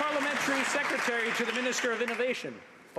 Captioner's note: some Applause